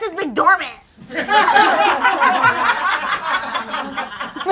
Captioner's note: audience laughs